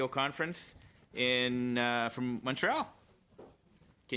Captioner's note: speaking French